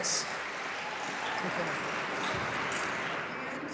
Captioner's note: applauding